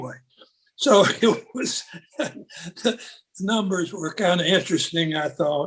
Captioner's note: laughs